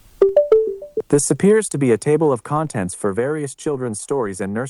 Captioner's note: chime